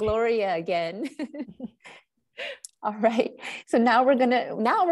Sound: laughs

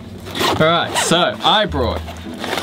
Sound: bag unzips

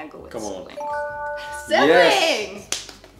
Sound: chimes

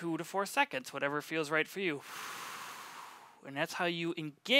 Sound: exhales

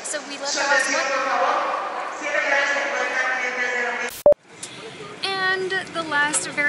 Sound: announcement on overhead speakers

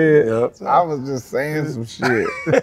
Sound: laughing

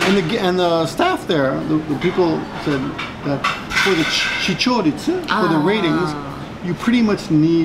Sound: TV talking heads

